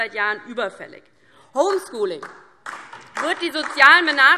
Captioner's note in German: Beifall DIE LINKE und vereinzelt SPD